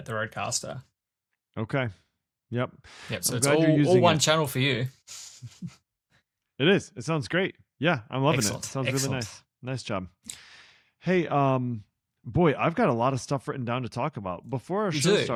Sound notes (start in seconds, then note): 5.6 laughs